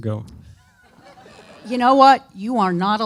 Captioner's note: audience laughing